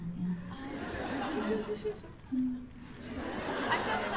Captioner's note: laughter